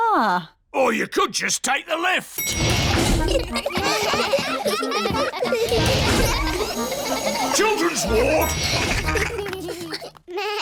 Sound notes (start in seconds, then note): 2.4 elevator bell dings; 3.0 all giggling; 9.0 elevator bell dings